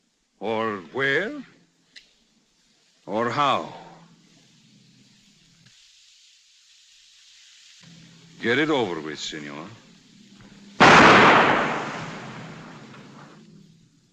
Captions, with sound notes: or where, or how? Get it over with, señor. [ GUNSHOT ]